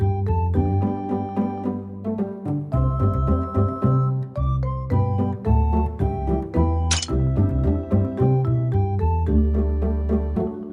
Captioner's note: accidental crack